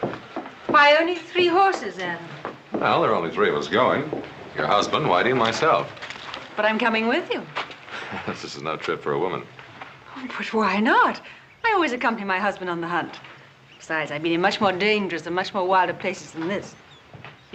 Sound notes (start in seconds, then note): 7.8 chuckling